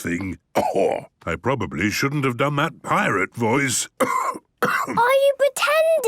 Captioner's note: cough